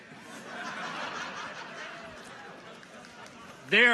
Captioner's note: people laugh